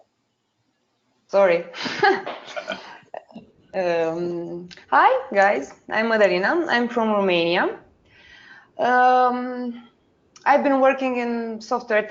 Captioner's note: laugh